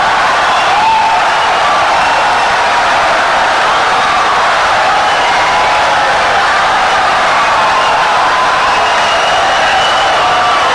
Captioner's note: wild applause and cheering for 17 seconds